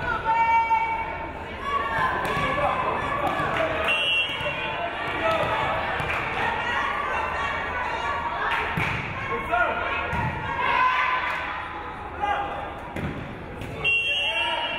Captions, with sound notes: - [Crowd] Let's go Tigers, let's go! (crowd cheering)